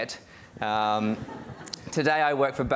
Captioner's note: audience laughing